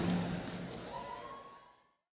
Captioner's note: audience yelling